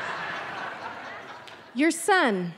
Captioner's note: audience laughing